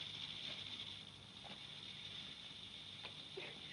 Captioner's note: sonajeros de serpientes